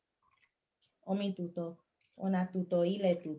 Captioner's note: non-english speech